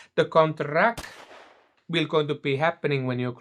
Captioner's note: gunshot